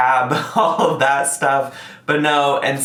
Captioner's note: laughs